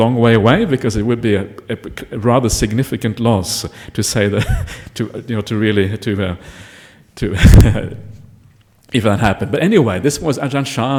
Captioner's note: laughing